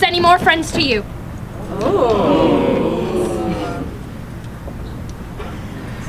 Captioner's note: audience exclaiming